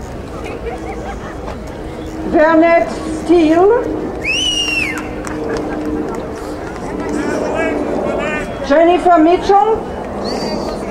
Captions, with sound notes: Bernette Steele. (man whistles) Jonathan Mitchell.